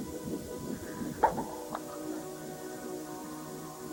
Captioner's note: pop